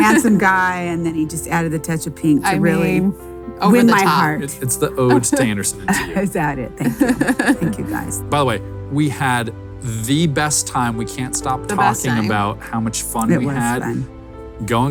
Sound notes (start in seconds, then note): 5.1 laughs